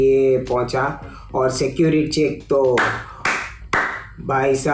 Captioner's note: sarcastic Claps